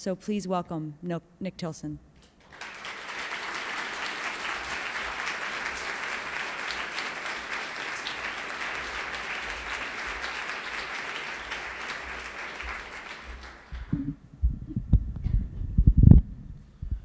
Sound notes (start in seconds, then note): 5.3 applause